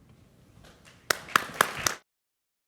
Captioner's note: applause